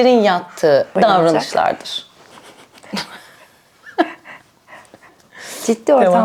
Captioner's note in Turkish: kahkaha